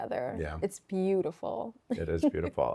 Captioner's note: laughs